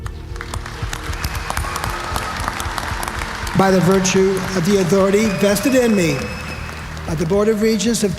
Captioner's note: applause